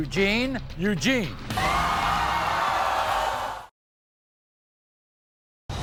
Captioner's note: audience cheering